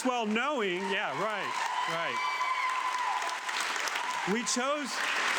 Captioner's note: audience applauding